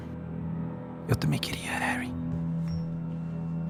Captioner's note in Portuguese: sussurrando